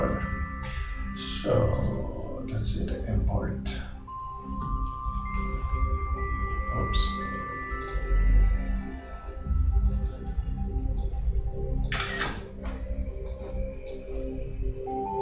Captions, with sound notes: Okay, whatever, so. Let's see the import. (mouse clicking) Whoops. (mouse clicking) (camera lens clicks)